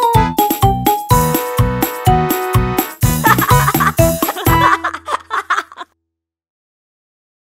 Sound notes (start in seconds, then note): 3.2 kid laughing